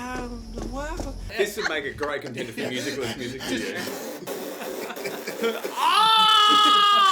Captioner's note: imitates pyro explosions